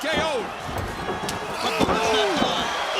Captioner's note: crowd cheering